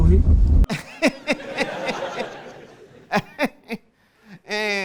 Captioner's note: fake laughing